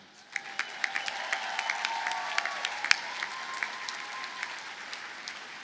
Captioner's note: audience cheers and applauds